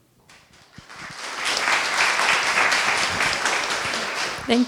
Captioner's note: applause